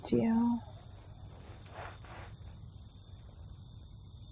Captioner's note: crickets chirping